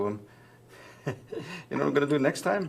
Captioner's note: laughs